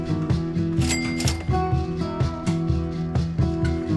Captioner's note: bell dings